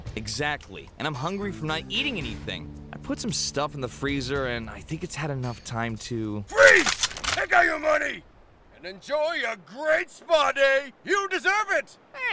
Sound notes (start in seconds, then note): 6.6 guns cocked